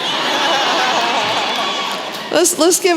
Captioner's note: laughter